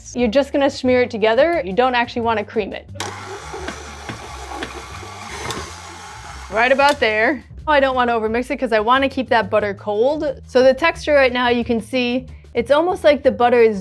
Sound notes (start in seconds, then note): 3.0 mixer whirring